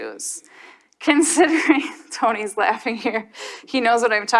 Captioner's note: chuckles